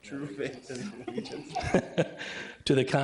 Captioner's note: everybody laughing